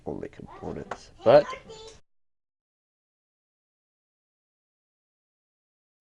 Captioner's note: silence